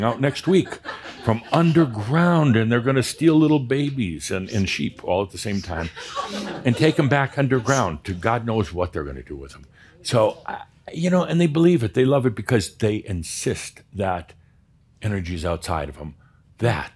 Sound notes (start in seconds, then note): 5.4 more chuckles